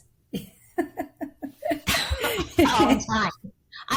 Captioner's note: laughing